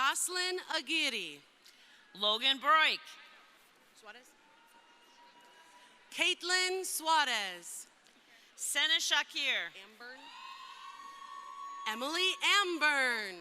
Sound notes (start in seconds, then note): 10.2 crowd cheering